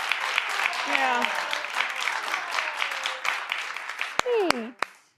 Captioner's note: crowd applauding